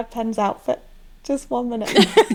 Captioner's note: laughing